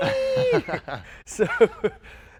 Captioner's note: both laugh